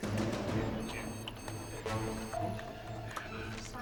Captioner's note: beeping continues; indistinct chatter